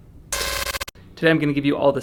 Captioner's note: static buzzing